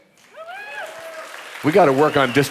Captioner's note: audience applauding; audience cheering